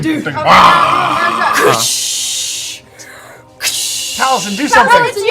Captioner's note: growls; swishing sound effects